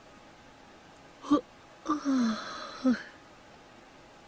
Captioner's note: yawn